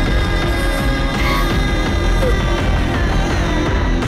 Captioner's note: Crying